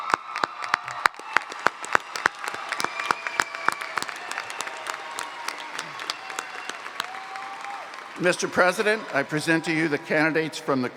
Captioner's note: cheers and Applause